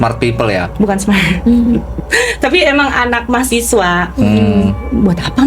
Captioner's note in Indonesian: tertawa